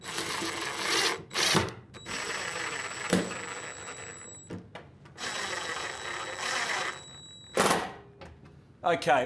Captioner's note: drill